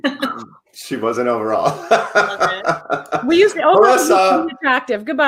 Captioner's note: laughs